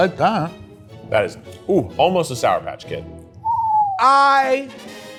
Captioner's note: whistles